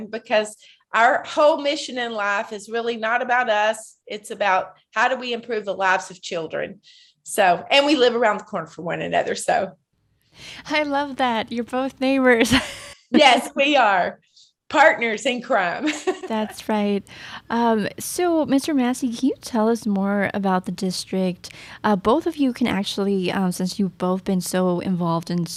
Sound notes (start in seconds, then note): 12.5 laughing